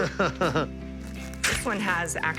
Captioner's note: laughter